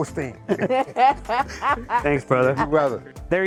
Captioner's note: laughs